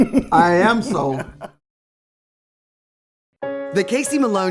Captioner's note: laughs